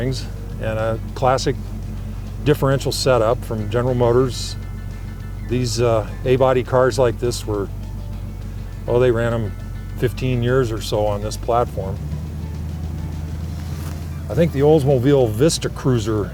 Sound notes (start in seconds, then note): 12.6 engine roaring; 12.6 soft music